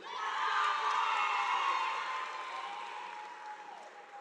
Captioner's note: audience applauding